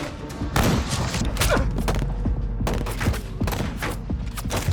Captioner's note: grunting